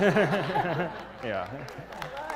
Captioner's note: laugh; applause